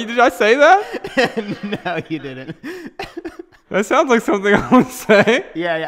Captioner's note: haha